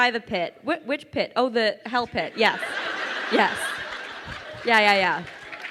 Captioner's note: crowd laughing